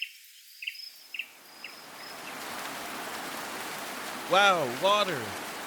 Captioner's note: rain pouring